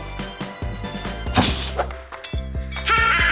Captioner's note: crashing; evil laughing